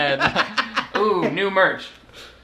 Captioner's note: both laugh